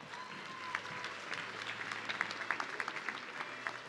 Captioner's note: audience clapping